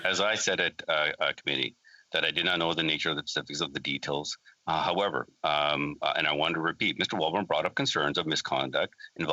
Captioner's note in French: voix de l'interprète